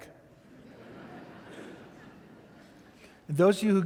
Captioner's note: audience laughing